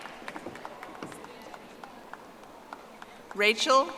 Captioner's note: audience applauding